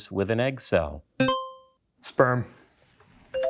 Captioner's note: buzzer ringing